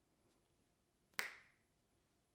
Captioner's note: fingers snapping